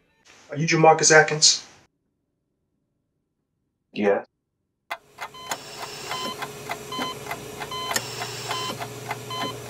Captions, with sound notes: Are you Jamarcus Atkins? Yes [clock ticking] [hospital machine]